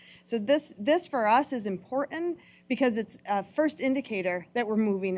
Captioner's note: none